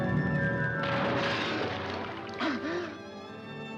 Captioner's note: water splashes; Johnny gasps; gasps for air